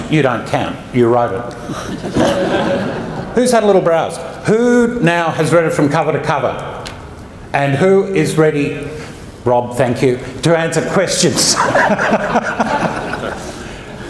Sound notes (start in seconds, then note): 11.4 laughter erupts